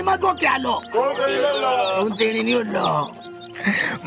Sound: speaking foreign language; men speaking foreign language; speaking foreign language

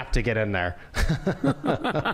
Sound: laughs

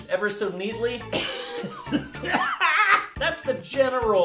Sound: coughing

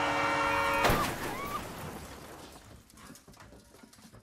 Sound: car horn blares; crash; woman screams

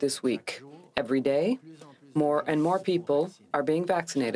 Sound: speaking french

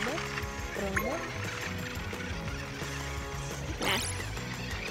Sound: the sound of wheels?

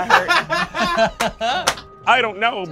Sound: group laughs

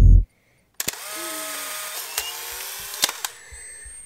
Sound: breathes in deeply

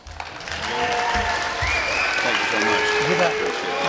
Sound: applause

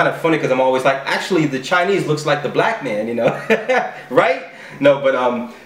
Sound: hehehe

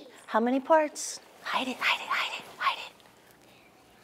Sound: teacher whispers

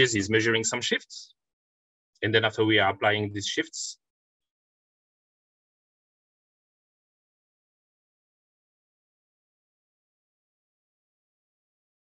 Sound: audio cuts out

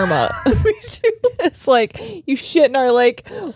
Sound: both laugh

